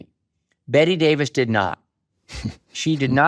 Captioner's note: chuckles